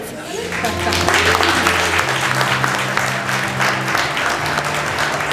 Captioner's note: applause